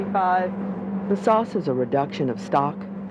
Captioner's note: voiceover